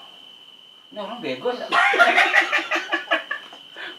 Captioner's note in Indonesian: ketawa Monyet